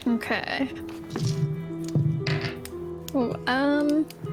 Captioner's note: click clack roll